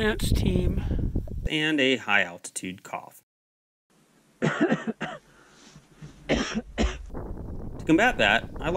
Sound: coughing sounds

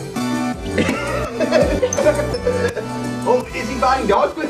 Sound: laugh

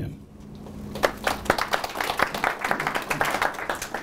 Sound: applause

